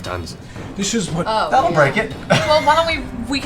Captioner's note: laughs